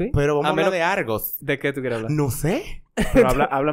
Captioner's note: laughs